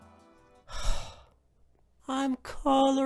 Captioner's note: sigh